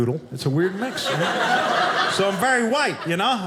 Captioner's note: audience laughing